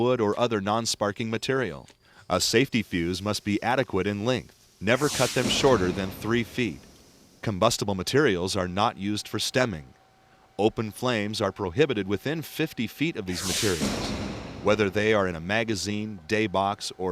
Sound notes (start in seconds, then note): 3.0 fuse lit; 13.3 explosion